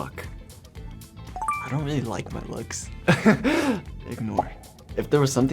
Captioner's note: beeps